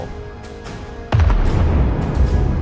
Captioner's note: boom